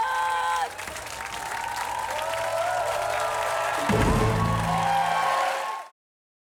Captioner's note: cheering, applause